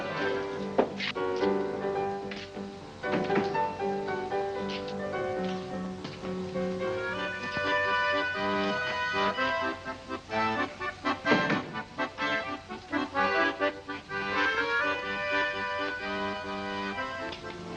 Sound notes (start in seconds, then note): 1.4 piano music; 7.3 accordion music; 11.2 door closes; 13.3 accordion music